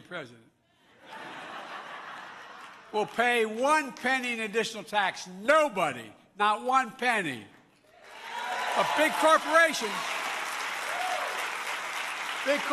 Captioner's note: laughter